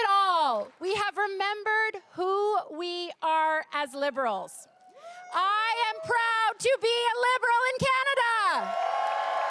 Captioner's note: cheering and applause